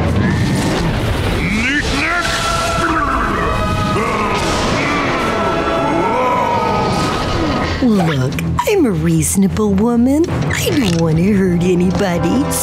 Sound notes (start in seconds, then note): 0.6 shouting; 3.7 intense music playing; 3.7 thunder rumbling